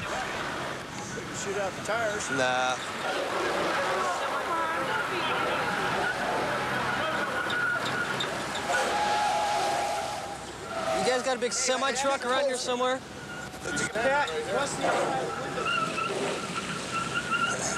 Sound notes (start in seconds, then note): 3.6 tires squealing